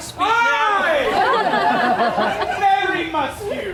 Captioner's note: audience laughs